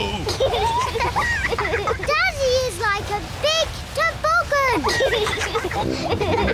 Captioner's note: both giggle